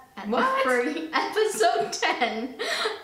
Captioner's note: laughs